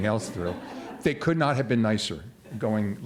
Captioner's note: laughter